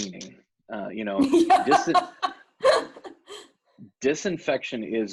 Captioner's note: laughs